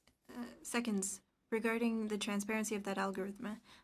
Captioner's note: speaking French